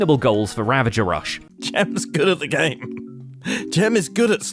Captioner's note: chuckles